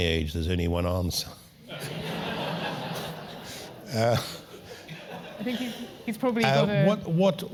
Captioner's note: laugh